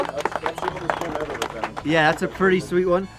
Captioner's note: volunteer's voice drowned out by clapping